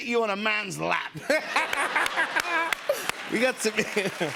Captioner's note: laughter